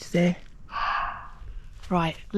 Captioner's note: muntjac bark